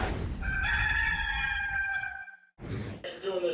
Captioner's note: cock crowing